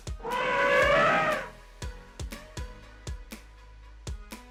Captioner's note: elephant sound